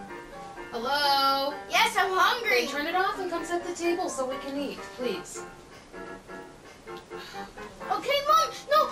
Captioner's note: whines